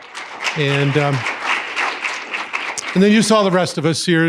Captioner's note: applause